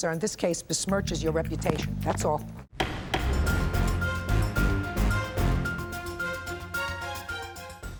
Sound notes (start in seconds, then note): 2.8 gavel bangs; 2.8 dramatic upbeat music